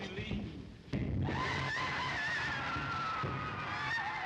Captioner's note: women laughing